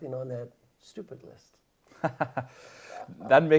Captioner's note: laugh